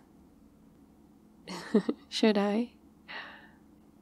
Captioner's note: laughs